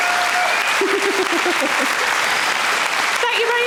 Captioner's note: audience cheering; Sarah chuckles